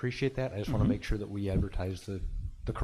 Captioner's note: pat